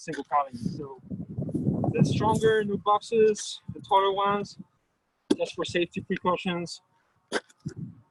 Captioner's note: wind rustling